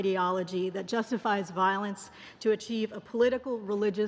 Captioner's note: speaking english